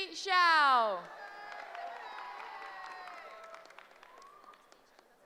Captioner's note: cheering